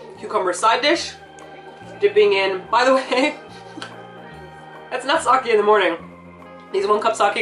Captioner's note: laughs